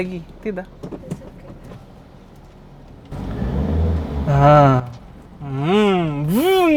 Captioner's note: heheh